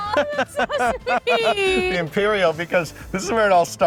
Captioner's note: laughing